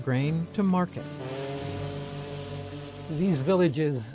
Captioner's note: steamboat paddle wheel churns